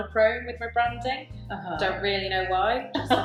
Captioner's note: laughs